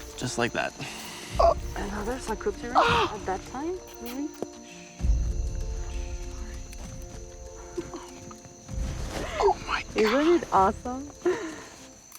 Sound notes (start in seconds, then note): 0.8 gasps